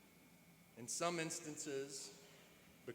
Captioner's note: none